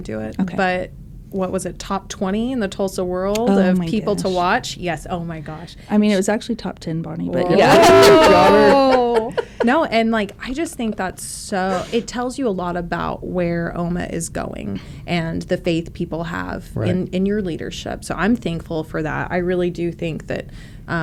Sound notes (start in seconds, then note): 7.5 laughter